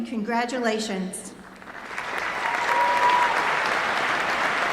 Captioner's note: applause